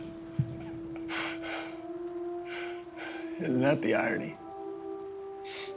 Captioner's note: laughs